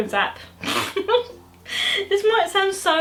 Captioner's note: bursts into laughter